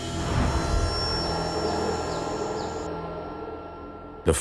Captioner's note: birds chirping